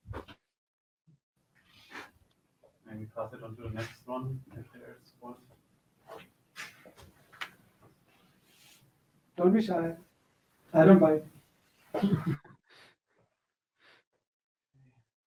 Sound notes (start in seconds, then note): 12.0 chuckles